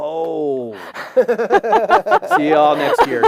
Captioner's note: laughter